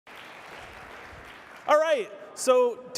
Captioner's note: audience applauding